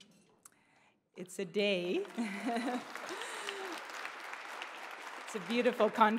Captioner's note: audience applauding; laughing